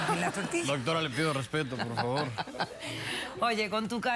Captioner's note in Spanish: risas